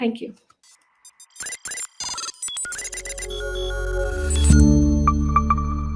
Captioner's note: electronic beeps; logo chimes